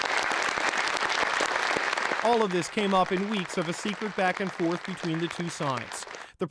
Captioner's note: applause